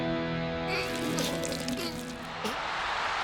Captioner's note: whimpers; cheers and applause